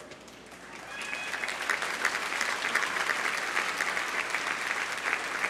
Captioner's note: audience applauding